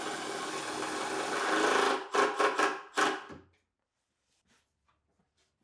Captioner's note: driller whirring continues